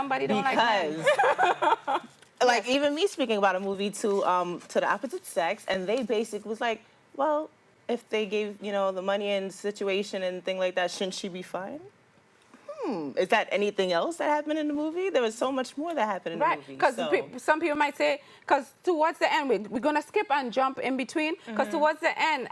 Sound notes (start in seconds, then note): 12.5 hmm